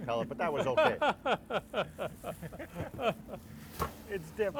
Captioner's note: laughing